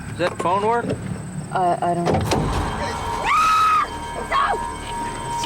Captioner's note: stammering; screaming